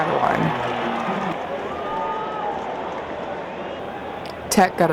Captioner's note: crowd noise and cheering